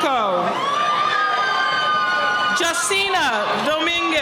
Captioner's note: cheering